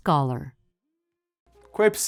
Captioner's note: speaking in Wolastoqey